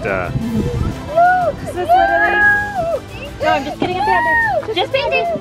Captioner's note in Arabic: أورورا تبكي